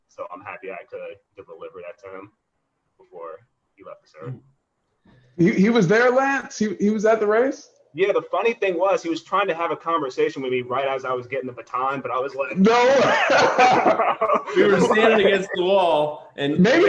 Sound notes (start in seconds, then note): 12.5 laughter